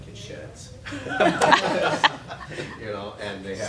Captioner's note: laughing